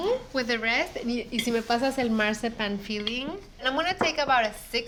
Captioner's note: speaking Spanish